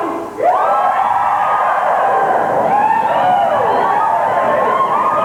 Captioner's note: cheering, talking